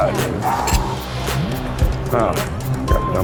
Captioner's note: exhales